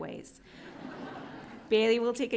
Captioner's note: audience laughing